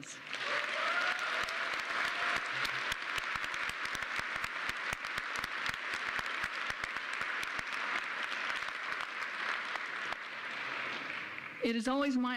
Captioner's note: applause